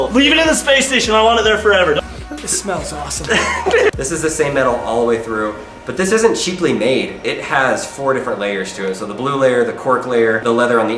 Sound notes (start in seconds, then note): 3.4 laughing